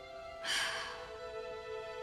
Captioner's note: sighs